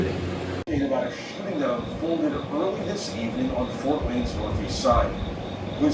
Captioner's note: on TV